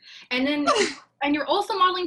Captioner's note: laughs